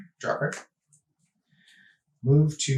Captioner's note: sighs